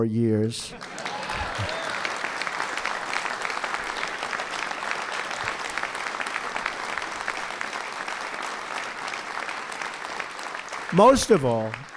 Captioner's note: applause